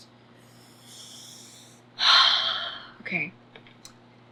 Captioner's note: inhales and exhales loudly